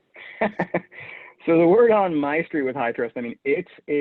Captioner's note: laughs